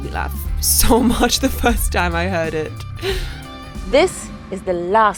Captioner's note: laughs